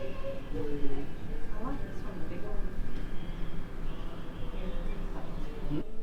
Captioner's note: background chatter